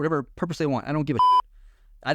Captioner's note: beep